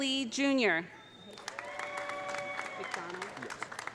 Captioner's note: audience cheering; audience applauding